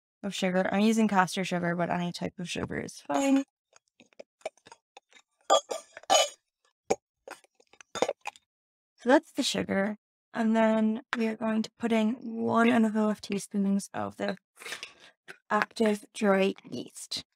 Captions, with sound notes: Of sugar I'm using castor sugar, but any type of sugar is fine. [metal spoon on glass sounds] So that's the sugar. And then we are going to put in one and a half teaspoons of this active, dry yeast.